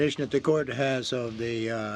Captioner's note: speaking French